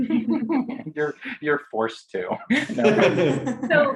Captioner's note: laughing